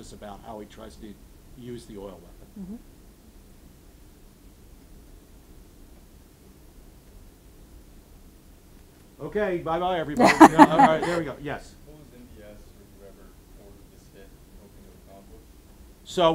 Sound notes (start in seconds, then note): 10.2 audience laughing